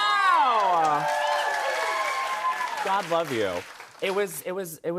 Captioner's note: cheers and applause